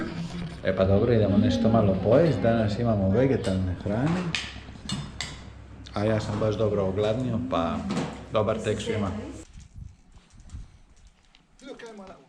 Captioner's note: laughs